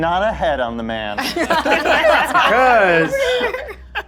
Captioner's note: all laughing